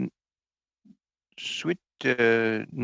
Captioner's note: speaking french